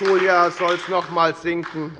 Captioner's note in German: Beifall bei der FDP und der SPD